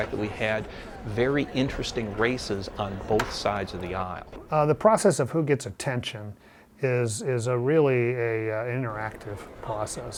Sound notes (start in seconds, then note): none